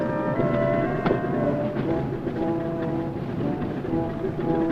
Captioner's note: truck engine roaring